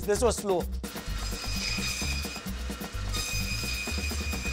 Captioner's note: blade whirring